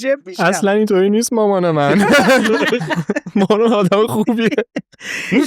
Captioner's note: laughs